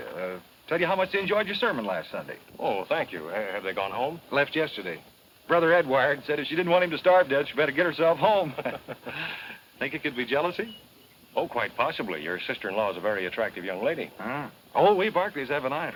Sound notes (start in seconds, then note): 8.2 laughs